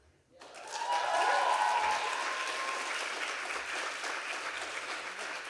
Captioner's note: audience applauding and cheering